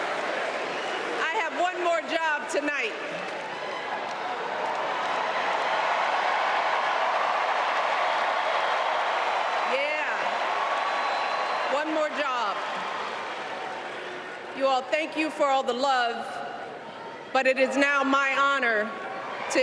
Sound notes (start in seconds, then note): 5.1 applause